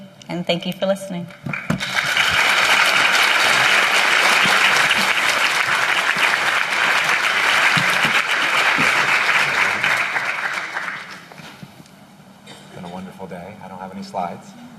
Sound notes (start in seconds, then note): 2.1 applause